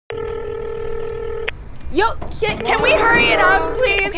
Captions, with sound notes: [PHONE RINGING] YO KID, CAN WE HURRY IT UP, PLEASE?